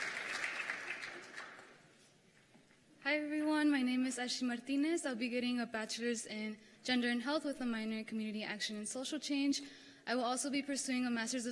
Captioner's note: cheers and applause